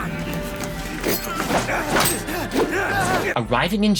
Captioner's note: both grunting